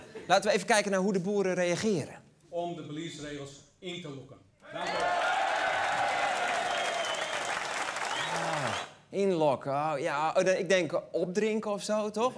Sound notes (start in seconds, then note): 4.6 cheering